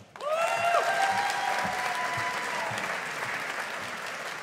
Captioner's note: audience applauding